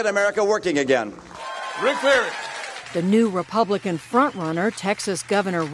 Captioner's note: cheering and applause